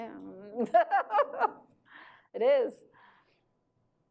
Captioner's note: Mona laughs